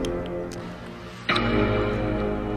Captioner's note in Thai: none